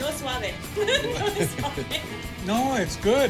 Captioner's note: laughs